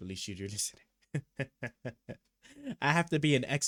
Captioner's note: laughs